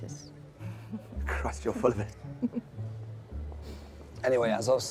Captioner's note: Eloise giggling